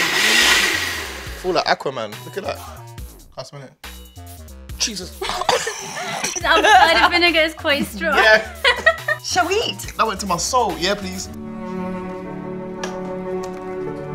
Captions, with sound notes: - Felt like Aquaman, look at that. Can I smell it? Jesus! (gagging and coughing) (laughing) - Now, the vinegar is quite strong. - Yeah. - Shall we eat? - That went to my soul. Yeah, please. (soft music)